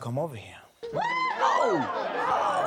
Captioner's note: audience cheers